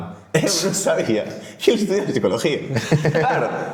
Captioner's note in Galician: risas